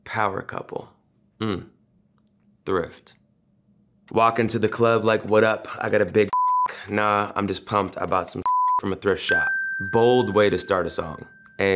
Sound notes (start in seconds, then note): 6.3 beep; 8.4 beep; 9.2 dings